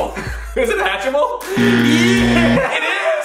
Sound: buzzer sound

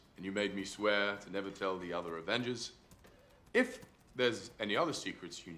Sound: none

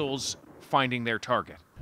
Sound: bombing

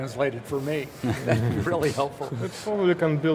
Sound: laughter

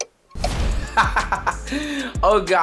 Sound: laughing

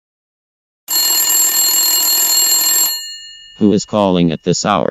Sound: telephone ringing

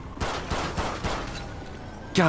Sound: shoots Fired

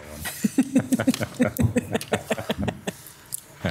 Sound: laughs

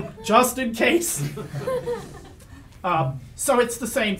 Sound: audience laughs

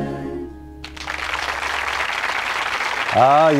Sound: applause

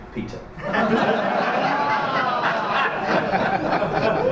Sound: audience laughs

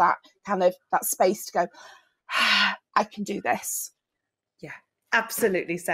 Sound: exhale

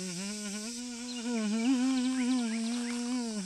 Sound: hums

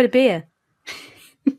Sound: laughs

